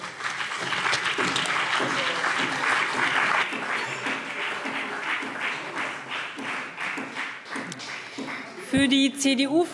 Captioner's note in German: Beifall BÜNDNIS 90/DIE GRÜNEN und vereinzelt CDU